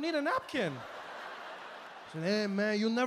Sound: audience laughing

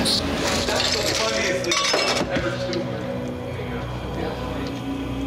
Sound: ice clattering

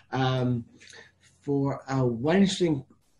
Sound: speaking in foreign language

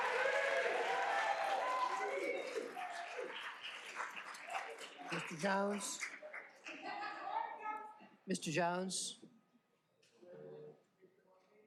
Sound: applause

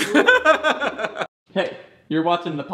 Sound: laughing

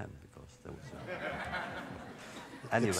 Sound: laughter

